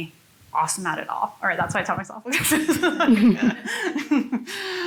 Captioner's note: laughs